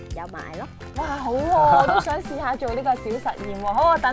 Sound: laughing

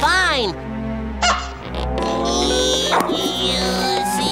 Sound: grunting

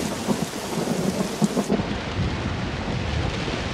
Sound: rain falling

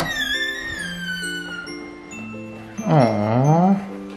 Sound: door creaking

